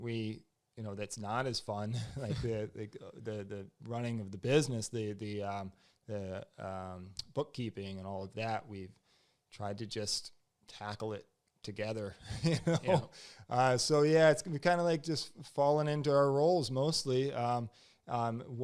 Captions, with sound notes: that's not as fun, like running of the business, the bookkeeping and all of that, we've tried to just tackle it together. -(laughs) -Yeah. So we kind of just fallen into our roles mostly.